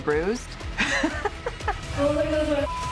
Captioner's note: laughing